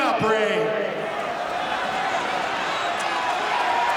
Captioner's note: audience cheering